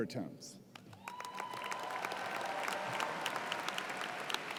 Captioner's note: cheers and applause